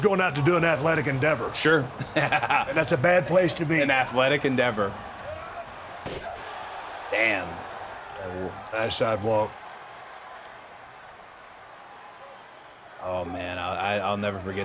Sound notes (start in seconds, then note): 1.7 chuckles; 6.1 body thuds; 6.9 audience cheering